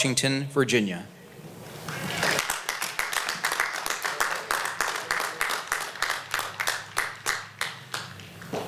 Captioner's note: applause